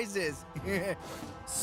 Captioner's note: Chris Chuckling